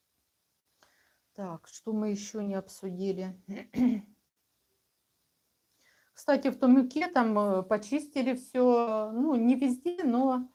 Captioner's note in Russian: откашливается